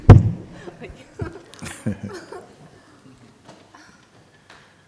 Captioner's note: laughter